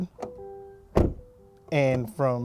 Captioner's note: door slams